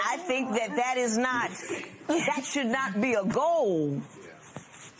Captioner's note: none